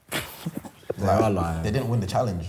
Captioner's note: chuckles